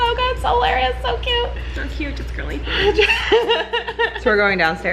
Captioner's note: laughing